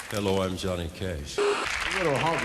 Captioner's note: TV static